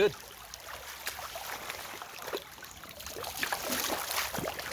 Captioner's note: water splashing